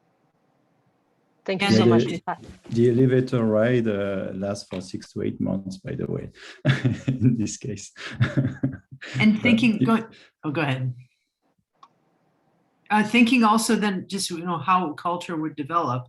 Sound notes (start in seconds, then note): 7.9 laughs